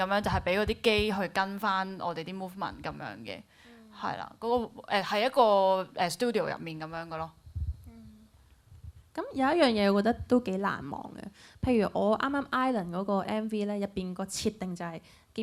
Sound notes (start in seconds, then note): none